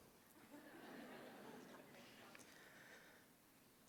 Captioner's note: laughter